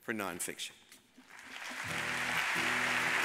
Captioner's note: audience applauds